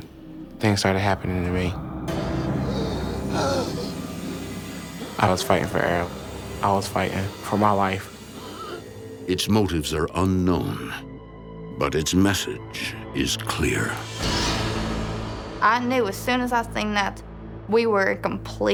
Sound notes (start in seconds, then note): 2.1 gasping